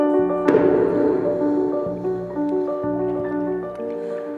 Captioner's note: foot stomps